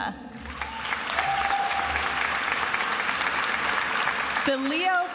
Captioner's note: attendees applauding and cheering